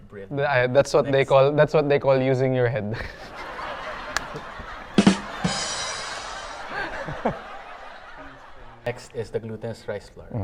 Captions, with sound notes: - That's what they call using your head. (audience laughter) - Next is the glutinous rice flour.